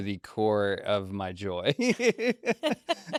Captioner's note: laughs